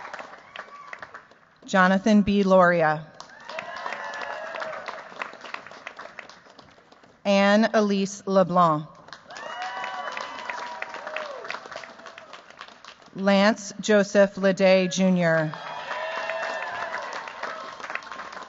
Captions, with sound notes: Jonathan B. Lauria. [CHEERS, APPLAUSE] Ann Elise LeBlanc. [CHEERS, APPLAUSE] Lance Joseph Liddae Jr. [CHEERS, APPLAUSE]